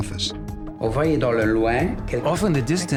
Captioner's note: non-english speech